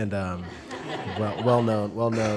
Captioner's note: laughter